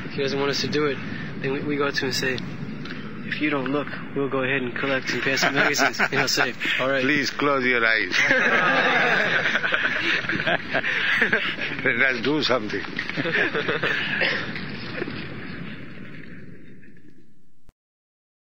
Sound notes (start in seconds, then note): 5.2 Prabhupāda laughs; 8.0 everyone laughs